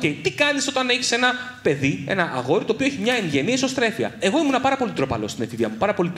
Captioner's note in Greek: none